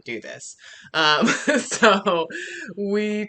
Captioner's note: laughing